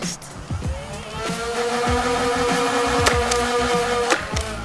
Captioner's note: shooting noises